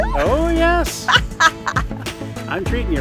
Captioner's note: laughs